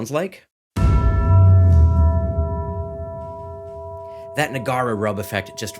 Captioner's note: dramatic percussion music; bell tolls